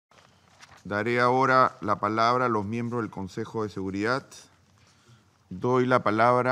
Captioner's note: in Spanish